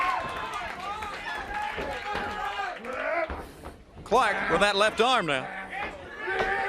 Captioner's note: crowd cheering